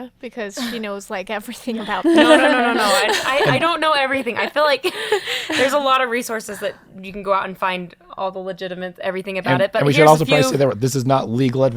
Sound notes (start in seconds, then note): 1.6 laughing